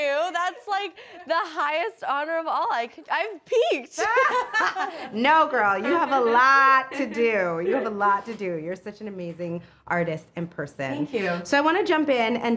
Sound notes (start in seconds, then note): 4.0 both laugh